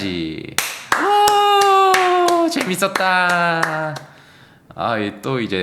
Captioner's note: claps